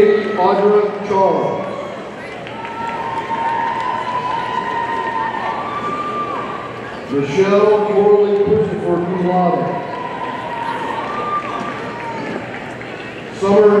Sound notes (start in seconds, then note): 3.5 audience cheering; 10.9 audience cheering